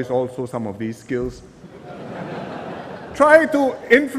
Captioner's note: laughter